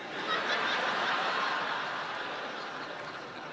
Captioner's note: laughter